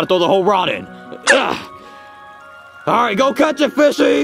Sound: air quivers; Junior grunts

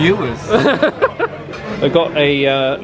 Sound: laughs

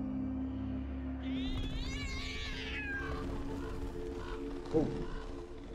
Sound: screeching meow

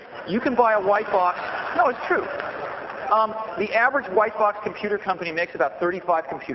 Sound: laughter

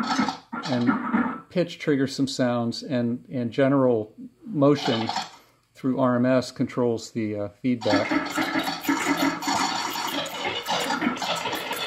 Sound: electronic sounds

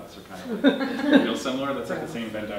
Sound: audience laughing

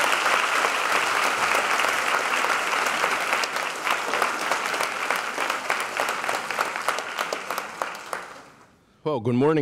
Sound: applause

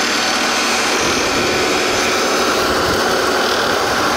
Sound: wind blows

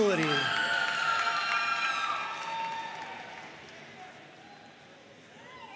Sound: audience cheering and applauding

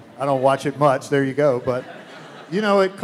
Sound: laughs

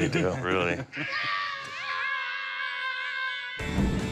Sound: kids shouting

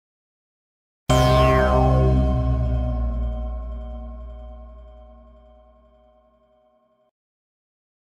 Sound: simply spooky sound

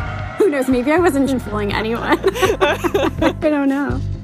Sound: both laugh

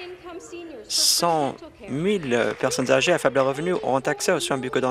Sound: applause

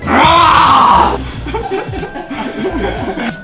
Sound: laughs

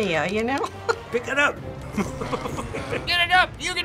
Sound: chuckles; laughs

